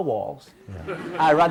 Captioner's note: audience laughs